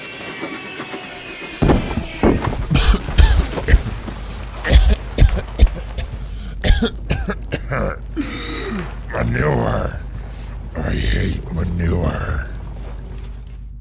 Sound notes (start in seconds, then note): 0.1 delorean fly-by; 2.6 coughing